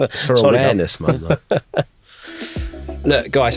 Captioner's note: laughs